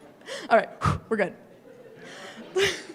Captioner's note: deep breath